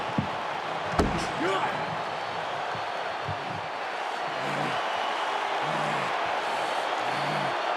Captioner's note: fist thuds; Edge panting